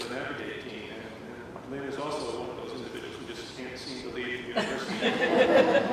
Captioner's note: laughter